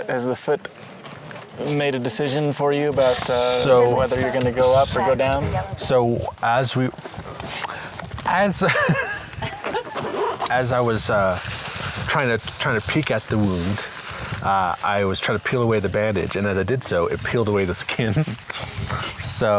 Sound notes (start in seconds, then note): 8.6 laughs